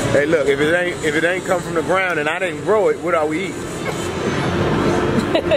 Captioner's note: chuckles